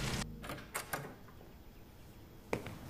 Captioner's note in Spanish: Ruido al abrir la puerta